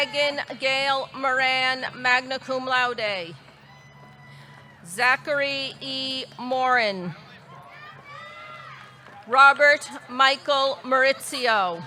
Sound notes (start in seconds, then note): 4.0 audience cheering; 7.3 audience cheering